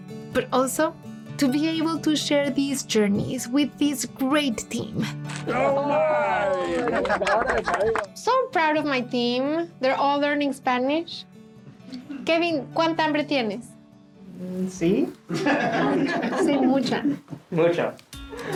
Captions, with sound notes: but also to be able to share these journeys with this great team. [ Cheering, clapping ] I'm so proud of my team. They're all learning Spanish. Kevin, how much are you going to eat? -Ummmm...yes? [ Laughter ] -Say mucha. -Mucha.